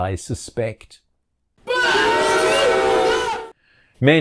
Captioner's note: boooo!